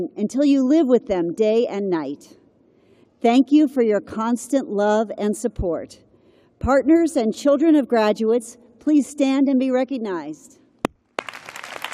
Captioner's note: applause